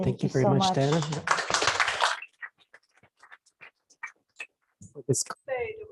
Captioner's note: applause